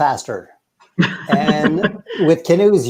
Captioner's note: laughs